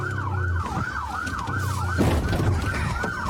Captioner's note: bangs